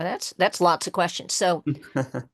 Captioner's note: laughs